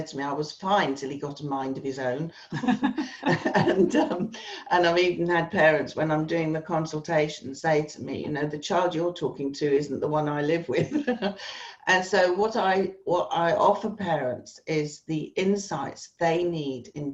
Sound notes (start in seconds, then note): 2.5 both laughs